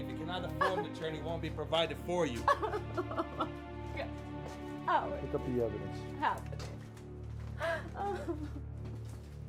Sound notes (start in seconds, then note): 2.4 Julie sobs; 7.6 Julie sobs